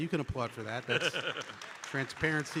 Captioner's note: audience laughing